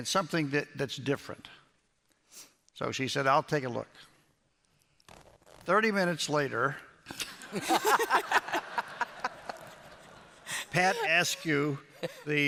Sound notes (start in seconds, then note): 7.1 laugter